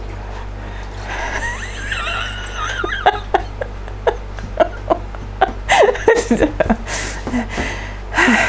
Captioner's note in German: lachen